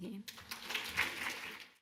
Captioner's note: audience clapping